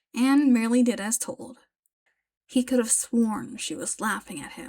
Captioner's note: none